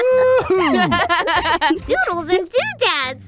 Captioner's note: laughter